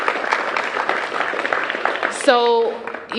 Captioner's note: applause